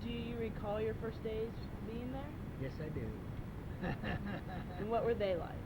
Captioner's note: laughs